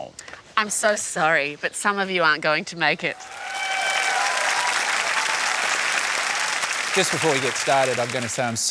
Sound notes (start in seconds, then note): 3.1 cheering, applause